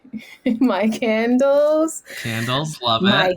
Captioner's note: laughs